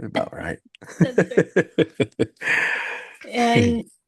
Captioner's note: laughing